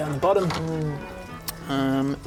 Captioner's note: miniature appreciation noise